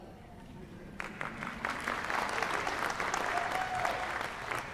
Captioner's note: applause